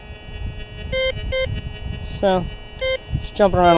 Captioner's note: detector beeps